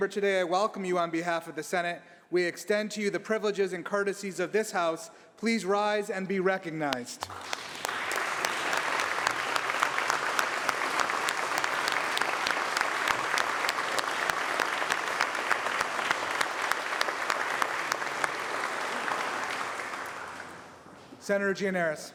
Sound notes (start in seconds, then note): 7.1 applause